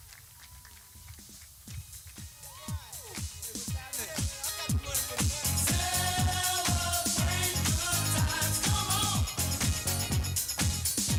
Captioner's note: clapping